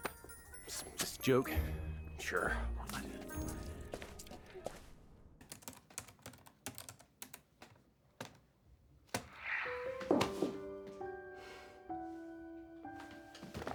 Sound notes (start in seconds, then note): 5.4 typing; 10.0 dropping hands, sighs heavily